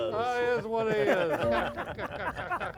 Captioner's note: all laughing